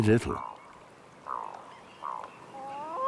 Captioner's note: birds call; hoots